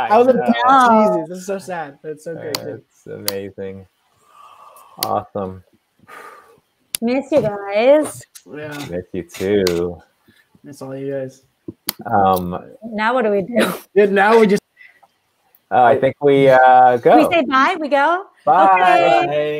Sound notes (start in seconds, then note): 13.5 laughs